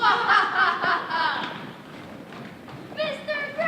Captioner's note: Laestrygonians laughing